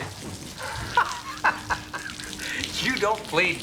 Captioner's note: laughs